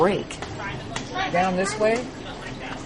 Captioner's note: background chatter